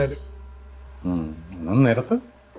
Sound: Vareeth sighs

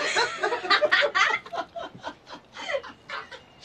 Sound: all laughing

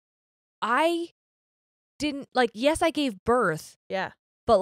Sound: none

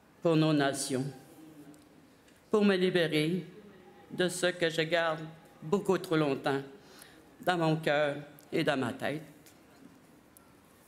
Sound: speaking French

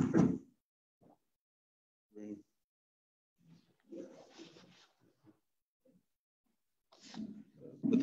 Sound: silence

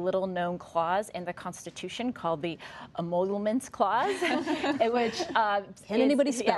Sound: laughter

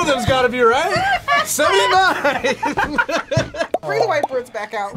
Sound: laughs

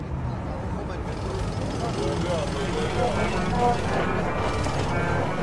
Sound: loud traffic and city noises

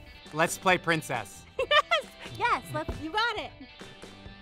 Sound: laughs

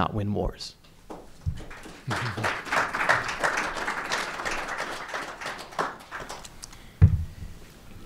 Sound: applause

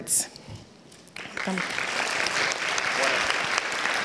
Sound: applauds

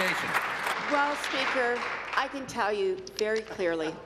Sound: applause

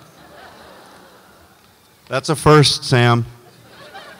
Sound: audience laughs

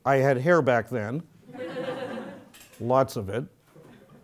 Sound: laugh

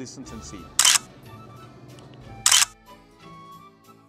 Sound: camera clicks

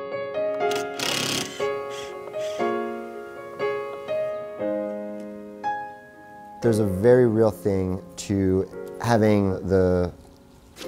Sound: drill buzzing

